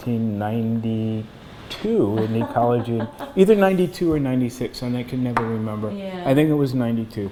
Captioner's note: laughter